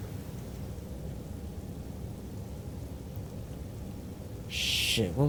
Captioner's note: shower water pattering